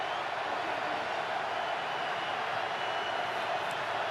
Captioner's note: cheering